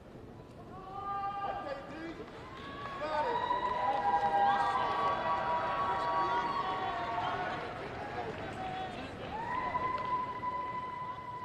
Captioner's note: applause